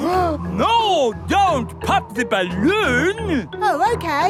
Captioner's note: gasps